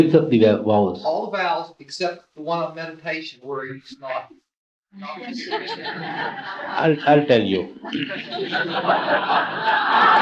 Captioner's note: laughter